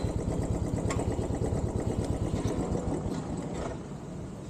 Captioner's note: engine off